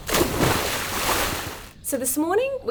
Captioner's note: water splashing